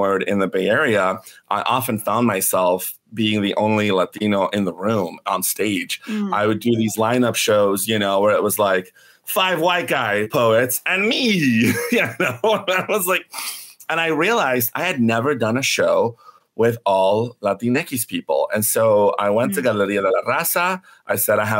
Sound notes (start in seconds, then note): 11.5 laughs